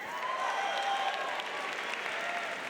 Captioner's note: cheers